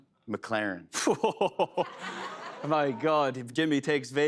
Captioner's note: laughing